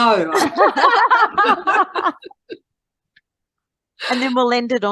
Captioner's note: everyone is laughing